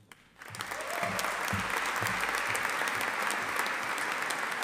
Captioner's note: audience applauding